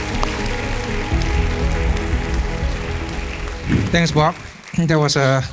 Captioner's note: applause